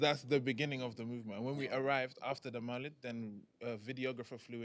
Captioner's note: non-english